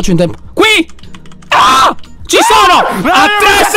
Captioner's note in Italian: urla